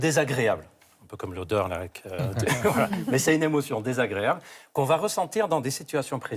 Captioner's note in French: rires